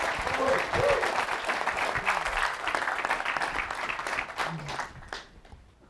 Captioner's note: applause